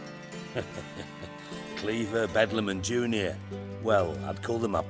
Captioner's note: chuckle